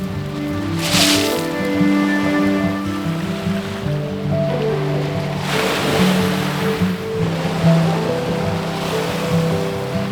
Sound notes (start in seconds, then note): 0.6 stones rattles loudly; 4.6 waves crashing loudly